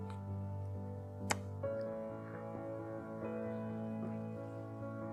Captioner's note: blows kiss